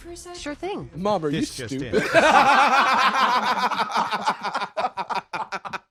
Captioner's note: both laughing